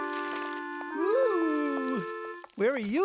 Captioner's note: groan